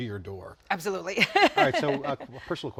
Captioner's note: laughing